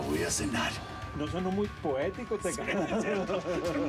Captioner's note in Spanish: risas